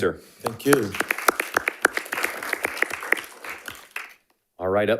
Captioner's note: attendees applauding